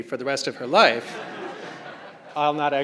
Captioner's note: crowd laughing